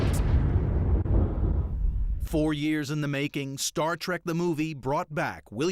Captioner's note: explosion